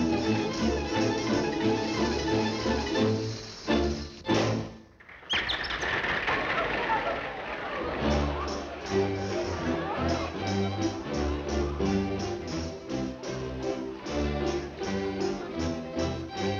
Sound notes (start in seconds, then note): 5.2 audience clapping; 8.0 people chattering; 10.4 upbeat gypsy style music